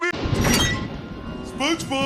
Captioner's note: door Opens